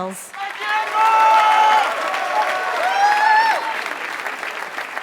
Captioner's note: applause